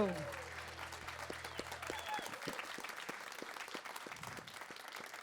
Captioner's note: audience applauds